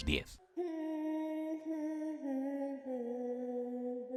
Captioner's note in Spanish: tarareo